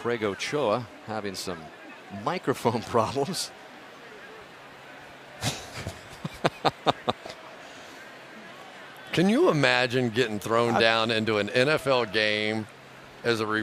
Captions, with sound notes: Craig Ochoa having some microphone problems. [laughter] Can you imagine getting thrown down into an NFL game